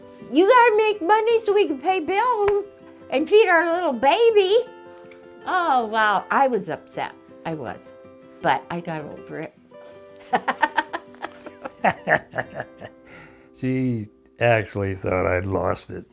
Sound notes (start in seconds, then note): 10.2 laughs